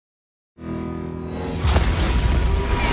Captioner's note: Gateway does portal noise